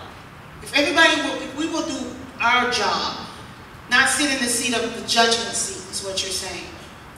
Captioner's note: none